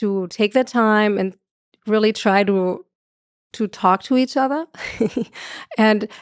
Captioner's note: chuckles